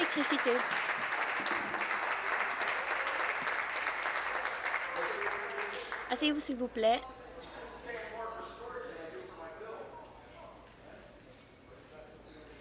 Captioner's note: applause